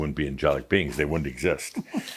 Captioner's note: giggling